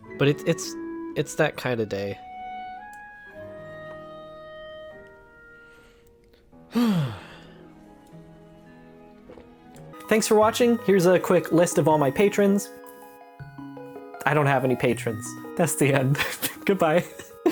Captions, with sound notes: But it's -- it's... it's that kinda day. *sighs* Thanks for watching. Here's a quick list of all my patrons. I don't have any patrons. That's the end. Goodbye. *laughs*